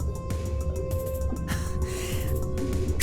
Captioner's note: dismayed breath